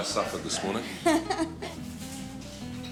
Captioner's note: laughs